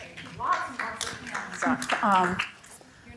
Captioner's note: applause